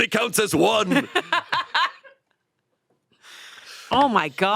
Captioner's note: laughs